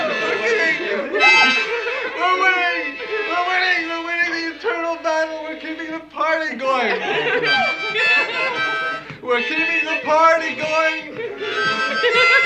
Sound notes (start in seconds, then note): 6.8 laughter